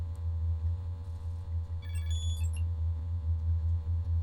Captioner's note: electronic beeping